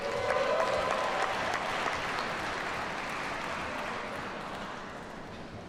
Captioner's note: audience cheers and applauds